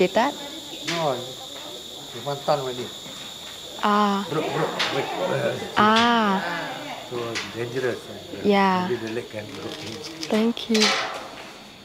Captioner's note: chatting